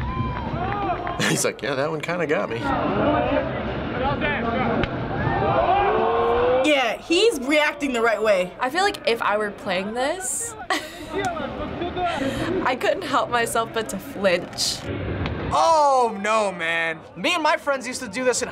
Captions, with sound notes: - He's like, "Yeah, that one kind of got me." - Yeah, he's reacting the right way. - I feel like if I were playing this... (chuckles) I couldn't help myself but to flinch. - Oh! No, man. - Me and my friends used to do this